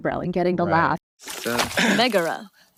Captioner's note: water splashes